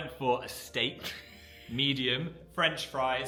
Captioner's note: Dan laughs